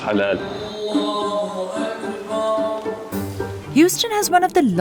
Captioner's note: priest chanting in Arabic